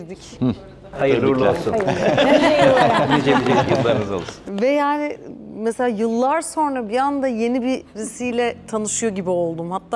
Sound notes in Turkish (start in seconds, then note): 1.7 kahkaha